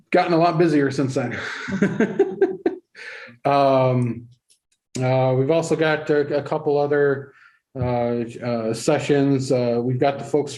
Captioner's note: laughter